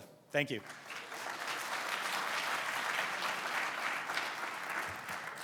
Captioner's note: audience clapping